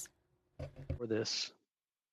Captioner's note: speaking in French